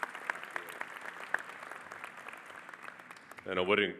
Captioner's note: audience applauding